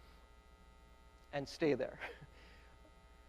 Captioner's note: laughs